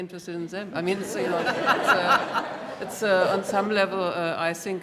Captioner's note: laughter